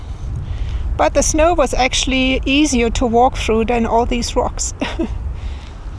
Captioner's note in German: lacht